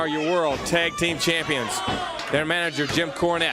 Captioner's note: crowd chatter